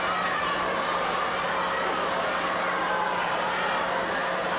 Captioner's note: crowd shouting